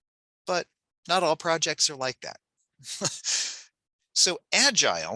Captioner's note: chuckles